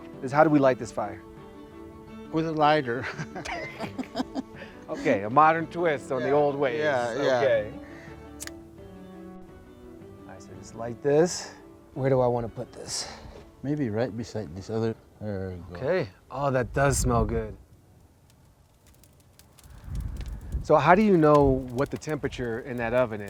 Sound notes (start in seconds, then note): 3.0 both laughing; 18.5 fire crackling; 18.5 light music continues